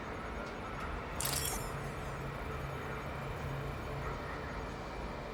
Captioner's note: computer clicking